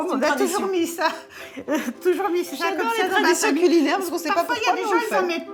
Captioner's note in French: rires